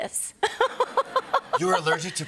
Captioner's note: laughter